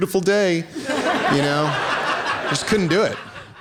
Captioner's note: laughter